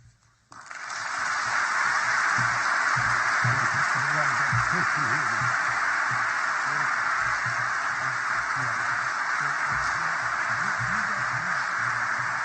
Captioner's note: applause